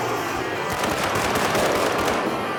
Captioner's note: gunshots